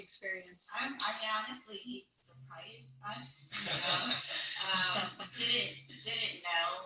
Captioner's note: all laugh